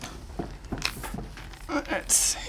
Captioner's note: footsteps